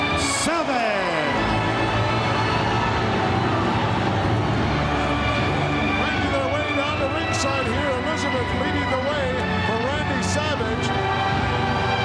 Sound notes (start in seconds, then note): 0.0 audience cheering; 0.8 dramatic music